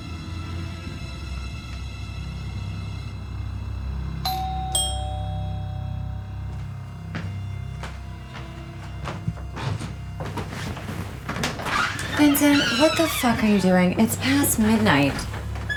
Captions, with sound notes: (doorbell rings) (suspenseful music) - Vincent, what the fuck are you doing? It's past midnight.